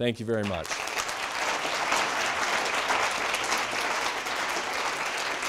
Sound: audience applauding

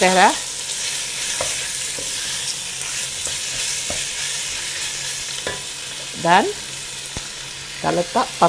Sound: stirring & sizzling sound

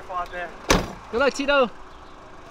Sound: door slamming

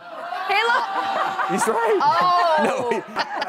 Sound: audience groans

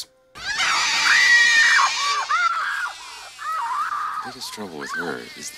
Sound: screams

